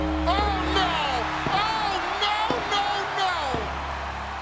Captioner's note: bell tolling